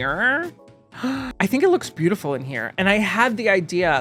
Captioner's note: gasps